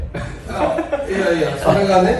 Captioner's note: laughs